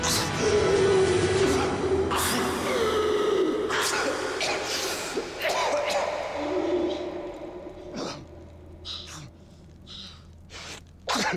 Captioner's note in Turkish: öksürme